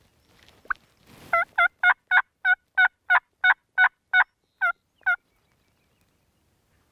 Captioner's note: turkey calling